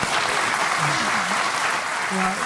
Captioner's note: audience clapping